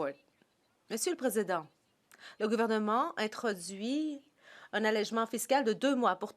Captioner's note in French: voix de l'interprète